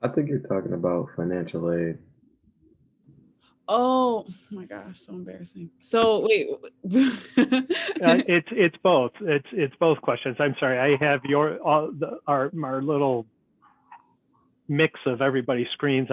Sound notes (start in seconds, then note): 6.8 laughs